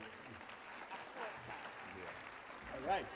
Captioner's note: audience applauds